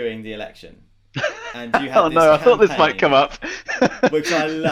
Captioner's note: laughing